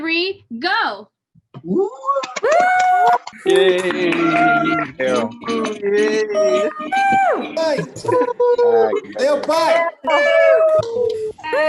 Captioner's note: cheering